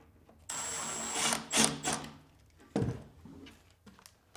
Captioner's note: drill whirring